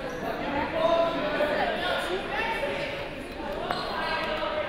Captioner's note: crowd murmuring